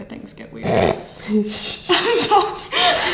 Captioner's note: snorting